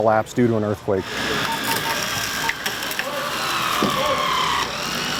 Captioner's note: machinery grinds